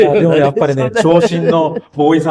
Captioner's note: laughs